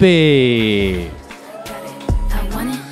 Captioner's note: audience cheering